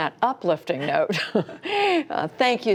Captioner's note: laughter